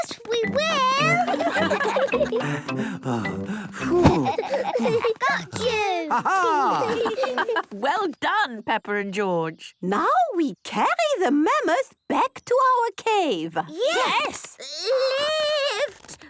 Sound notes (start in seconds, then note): 0.6 all laughing; 3.3 panting